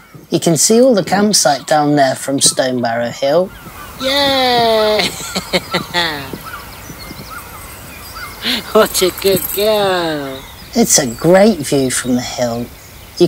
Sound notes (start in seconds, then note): 4.6 laughter